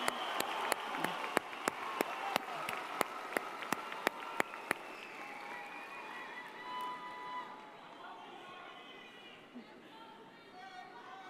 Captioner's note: cheers and applause